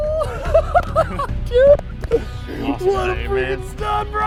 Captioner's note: both laugh